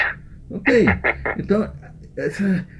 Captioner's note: laughs